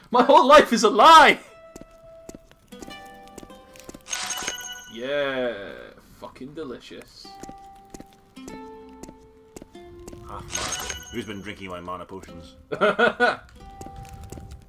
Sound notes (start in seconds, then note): 12.6 laughs